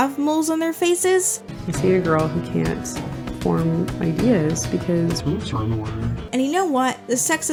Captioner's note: distorted audio